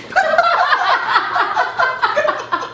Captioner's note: laughing